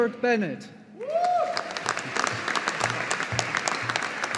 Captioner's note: audience applauding